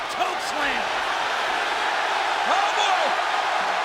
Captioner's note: audience cheering